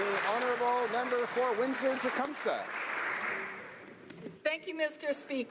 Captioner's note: applause